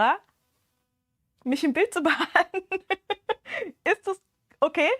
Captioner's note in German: gelächter